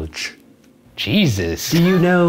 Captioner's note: laughs